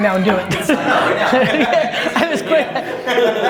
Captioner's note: all laughing